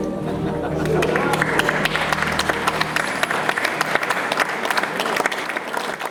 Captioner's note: applause